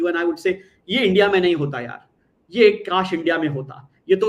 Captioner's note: non-english speech